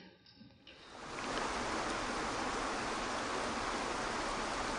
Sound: water gushing

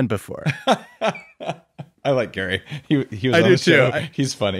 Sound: laughing

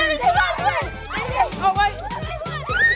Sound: cheering

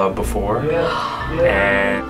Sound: gasps

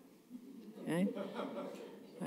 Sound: laughter

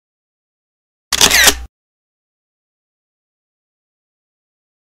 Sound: camera shutters

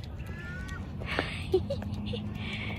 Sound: giggles at the cute dog

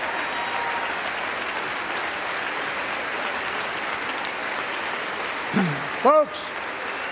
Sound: applause

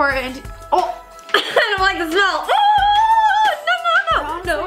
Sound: screams

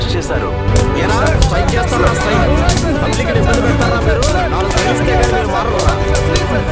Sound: protestors screaming in pain

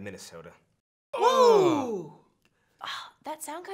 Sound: painful groaning

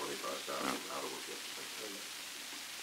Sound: Murrow, mumbling

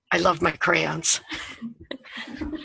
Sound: chuckle

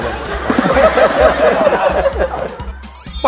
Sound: laughter

